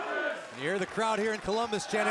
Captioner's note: fans chanting